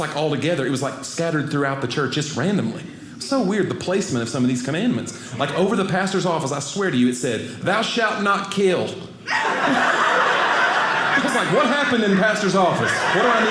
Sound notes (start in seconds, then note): 9.2 audience laughing